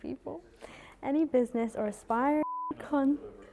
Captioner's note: beep